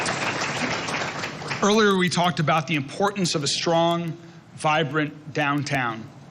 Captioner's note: applause